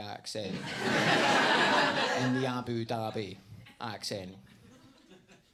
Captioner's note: audience laughs